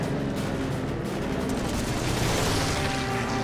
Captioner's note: gunfire